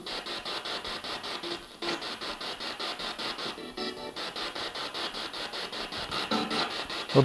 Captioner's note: noise of the spiritbox in the background